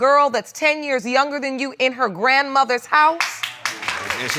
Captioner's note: audience applauding